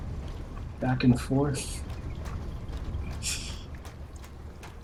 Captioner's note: laughs softly